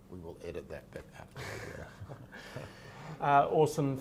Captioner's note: laughs